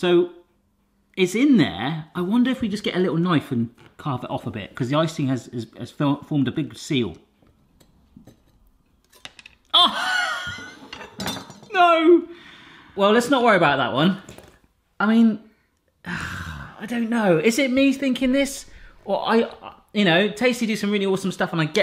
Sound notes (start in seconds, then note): 9.8 laughing; 10.4 knife clattering; 10.5 icing clinking